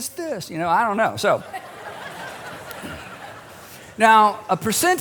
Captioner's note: laughter